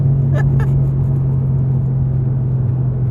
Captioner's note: laughs